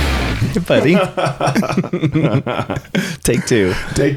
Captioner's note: men laughing